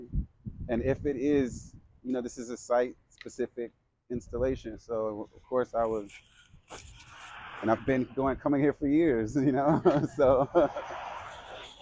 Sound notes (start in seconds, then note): 9.3 laughs